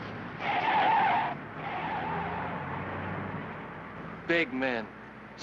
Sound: tires squealing

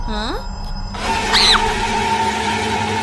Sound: scream; evil laughter

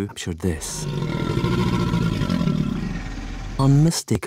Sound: deep growling

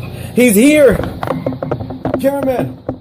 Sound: camera Rattling

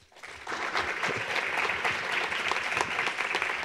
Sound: applause

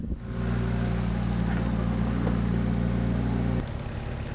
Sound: engine runs

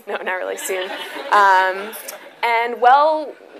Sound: audience laughs

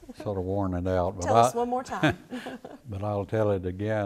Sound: laughs

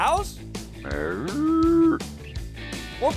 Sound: mooing

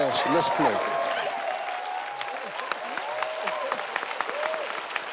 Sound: audience cheers

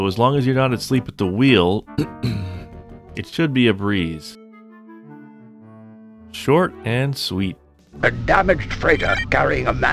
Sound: ahem

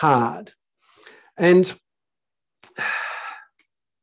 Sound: sighs

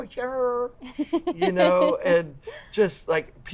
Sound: laughs

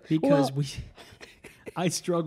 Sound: laughing

